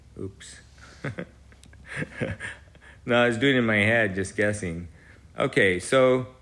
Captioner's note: laughs